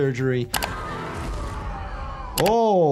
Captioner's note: Vecna screaming